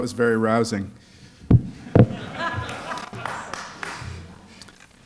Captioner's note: laughter